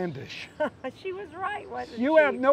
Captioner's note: laughing